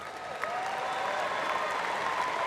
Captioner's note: applause